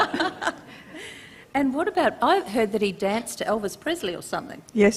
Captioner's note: laughter